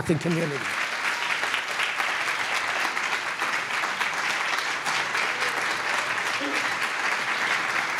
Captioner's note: applause